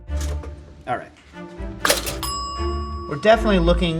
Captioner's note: bell pings